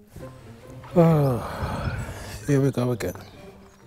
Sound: sighing

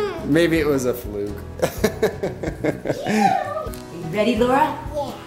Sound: laughing

